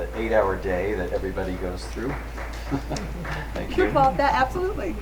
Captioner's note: audience member claps